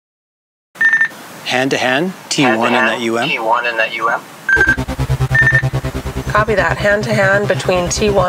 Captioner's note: radio noise